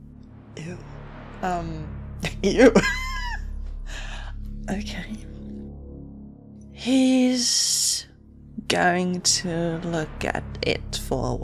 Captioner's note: laughs